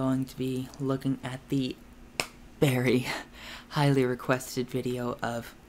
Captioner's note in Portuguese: bate palmas